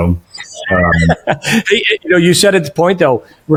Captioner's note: chuckling